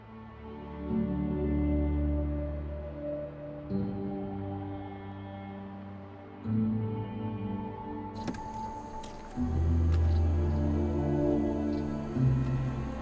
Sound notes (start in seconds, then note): 8.2 insects chirping